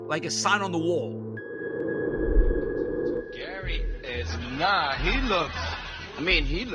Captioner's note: soundbite of archived recording